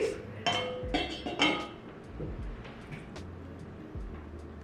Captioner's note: metal clinks